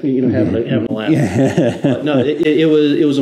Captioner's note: laughs